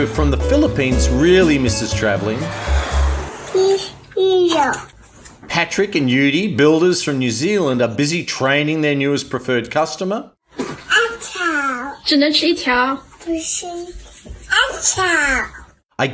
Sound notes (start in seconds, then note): 1.5 airplane whooshes; 11.0 child speaks in foreign language; 12.2 mother speaks in foreign language; 13.4 child speaks in foreign language